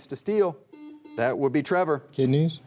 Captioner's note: buzzer beeps